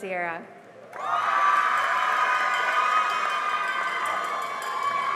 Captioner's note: cheering and applause